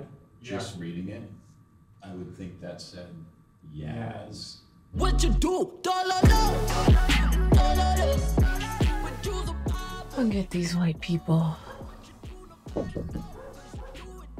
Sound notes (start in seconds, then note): 12.7 knock on door